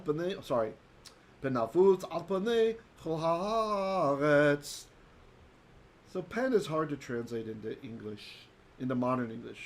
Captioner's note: Hebrew